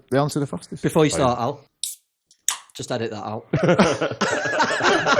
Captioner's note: can opening